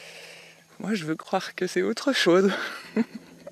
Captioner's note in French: rires